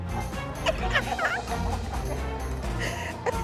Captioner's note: Abby Lee laughs